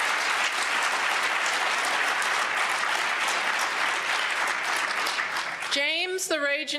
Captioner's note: applause